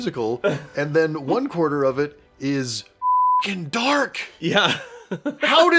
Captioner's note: beeping